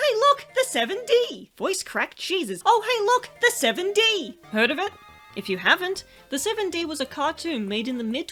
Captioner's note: voice crack, Jesus